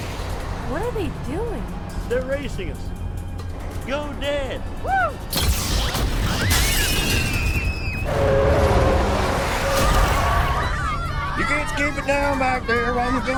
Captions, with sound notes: - What are they doing? - They're racing us. Go Dad. Woo! (loud blasting) (children screaming) (tires squealing) (children shouting) - You kids keep it down back there